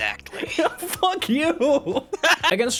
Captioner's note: laughing